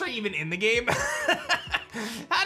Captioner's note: laughs